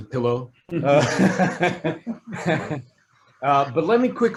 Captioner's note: all laughing